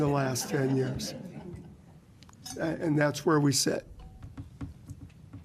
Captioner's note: laughter